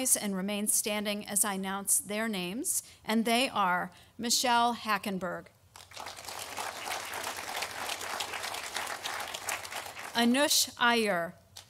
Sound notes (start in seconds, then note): 5.8 audience applauding